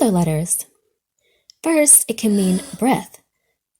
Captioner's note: girl inhales